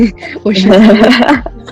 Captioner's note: laughs